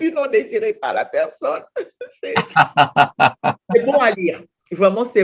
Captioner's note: laugh